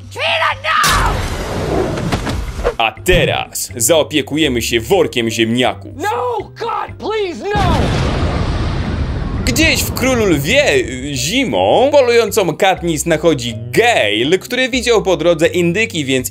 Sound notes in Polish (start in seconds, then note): 7.6 boom!